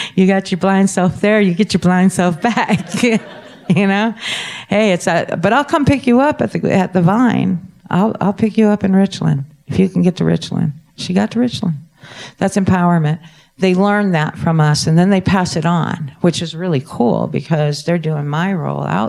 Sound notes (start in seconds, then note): 2.2 laughing